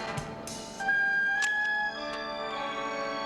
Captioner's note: clicks